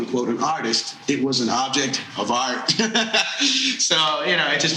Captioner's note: laughing